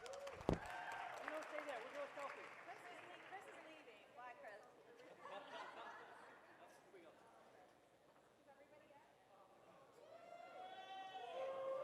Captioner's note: laughter